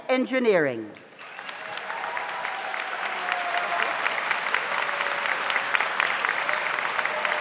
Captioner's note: audience applauds; audience cheers